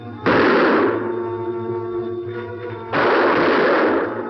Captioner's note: gunshots